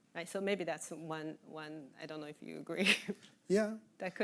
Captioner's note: chuckling